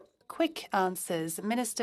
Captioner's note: speaking French